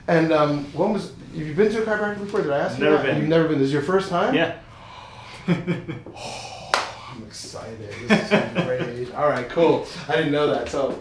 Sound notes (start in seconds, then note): 5.8 man laughs